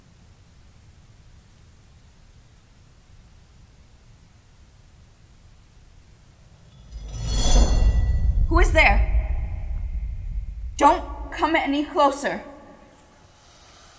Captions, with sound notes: (clang of a sword) Who is there? Don't come any closer.